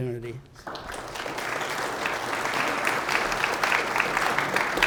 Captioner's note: audience applauding